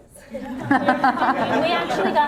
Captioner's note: laughter